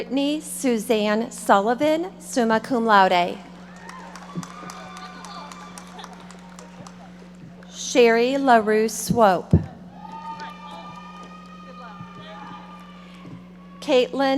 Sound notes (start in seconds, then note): 3.5 audience applauding; 9.9 audience members shouting